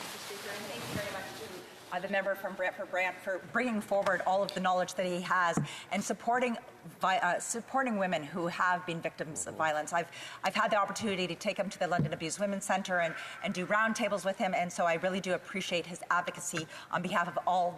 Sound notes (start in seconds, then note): 5.7 off mic